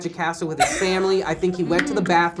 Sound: laughs

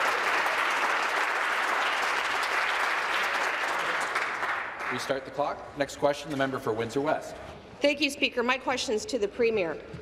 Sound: applause

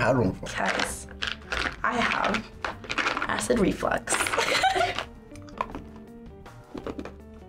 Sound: laughs

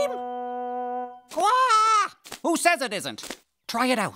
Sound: squawk

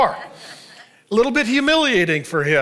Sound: congregation laughing

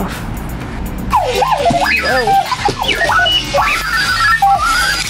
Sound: Clocky beeps and whirs

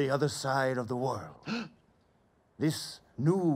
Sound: gasp

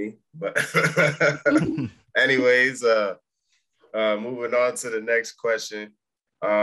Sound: chuckles

